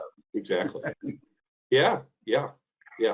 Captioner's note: laughs